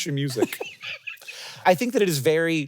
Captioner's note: Jason laughing